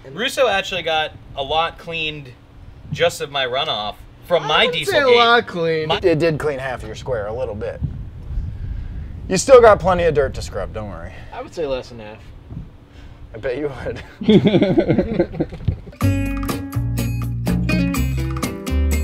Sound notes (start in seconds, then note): 13.9 laughter; 15.9 jazzy guitar music